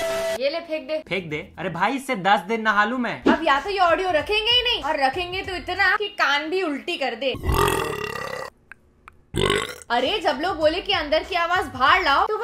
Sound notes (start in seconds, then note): 7.3 burrrrrrrp; 9.3 mini burrp